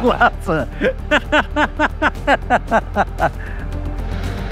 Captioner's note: laughing